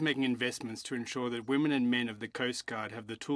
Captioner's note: speaking French